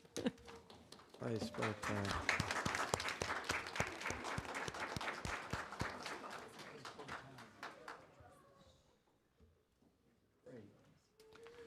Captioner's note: applause